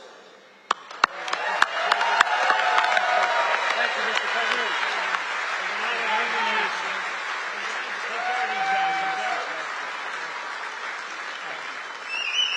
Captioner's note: applause